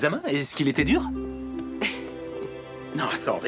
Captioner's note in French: chuckling